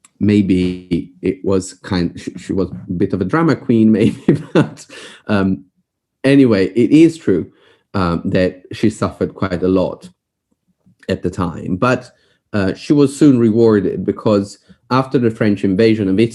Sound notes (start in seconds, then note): 4.0 laughs